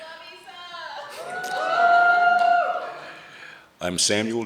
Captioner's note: audience cheering